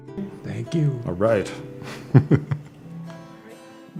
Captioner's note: laughs